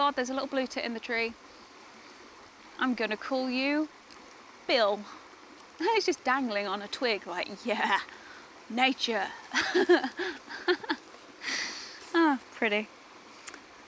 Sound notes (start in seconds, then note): 9.5 laughs; 11.4 sighs